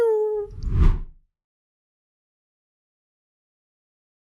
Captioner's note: swoosh sound